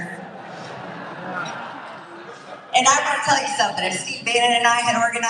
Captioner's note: laugh